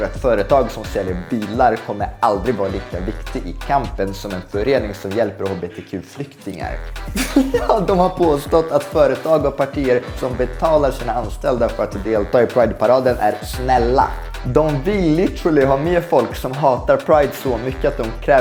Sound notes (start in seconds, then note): 5.2 laughs